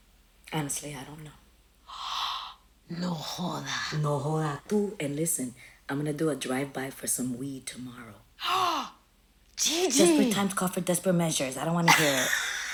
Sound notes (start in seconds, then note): 2.0 gasps; 8.4 gasps